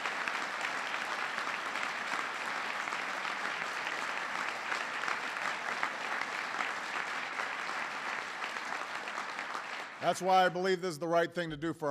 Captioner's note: applause